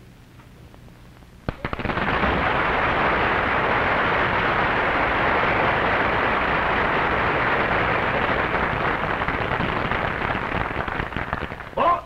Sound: applause

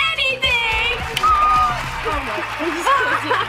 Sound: audience applause

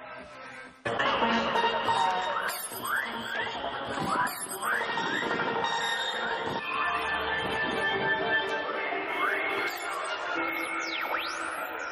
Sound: loud music; mystic sounds

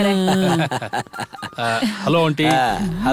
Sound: laughs

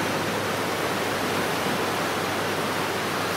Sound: waves crashing

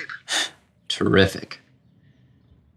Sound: scoffs

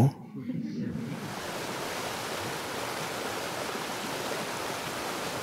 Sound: audience laughing; water splashing

